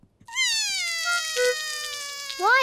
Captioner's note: cries